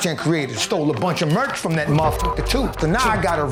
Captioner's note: beep